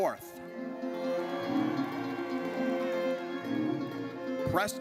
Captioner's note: audience cheers